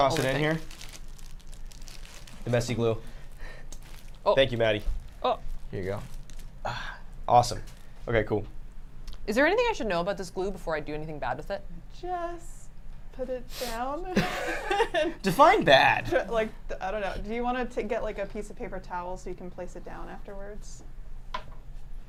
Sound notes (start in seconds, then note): 14.1 laugh